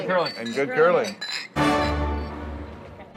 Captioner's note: clinking